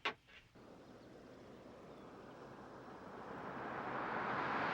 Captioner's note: engine revving